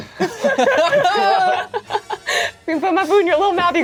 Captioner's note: all laughing